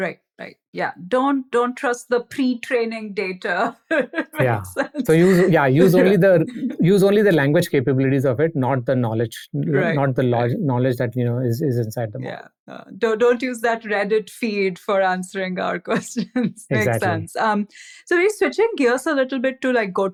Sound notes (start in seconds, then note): 3.6 laughing